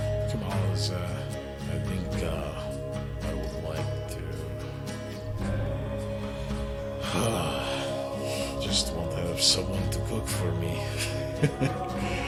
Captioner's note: sigh